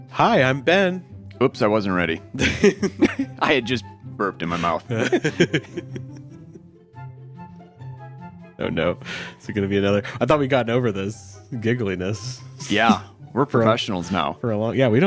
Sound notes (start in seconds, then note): 2.3 laughs